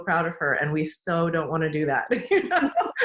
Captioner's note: laughs